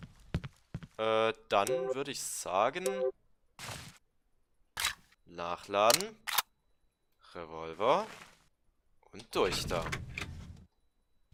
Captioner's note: Glock 17 Reload